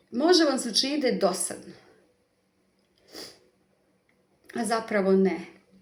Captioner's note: snort